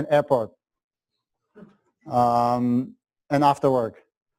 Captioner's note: pause